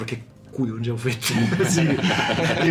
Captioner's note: laughs